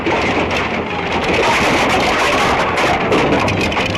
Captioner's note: planks clanking